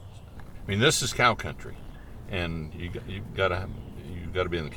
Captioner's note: voiceover